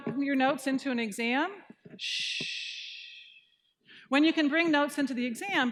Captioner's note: shushing